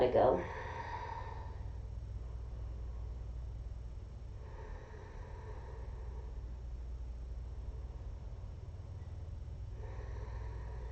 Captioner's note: inhaling; exhaling